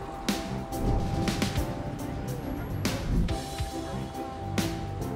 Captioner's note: traffic whooshing; air whooshing; passersby chattering indistinctly